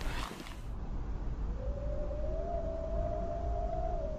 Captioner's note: gravel crunching